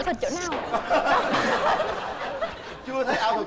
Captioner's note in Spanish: risas